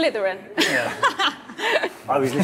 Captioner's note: laughing